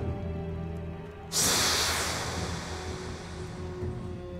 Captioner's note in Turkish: Üflüyor